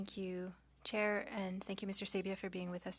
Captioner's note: speaking French